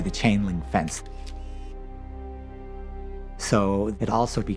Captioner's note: camera shutter clicks